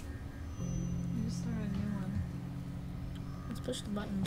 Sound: voiceover

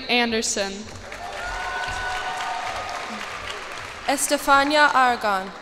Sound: cheers and applause

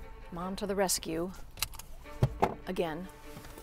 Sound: seatbelt unbuckling

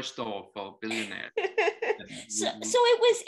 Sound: laughing

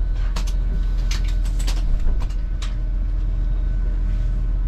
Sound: rustling luggage

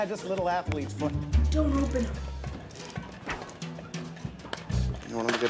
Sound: Two Ton Whispering

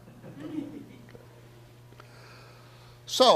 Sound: audience laughs

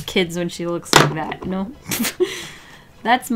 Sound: laughs

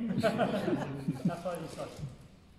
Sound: audience laughing

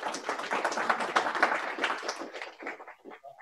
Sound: applause

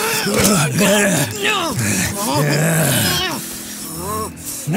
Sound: grunts

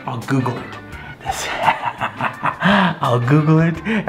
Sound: laughs menacingly

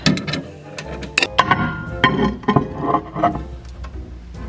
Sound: mug clinking

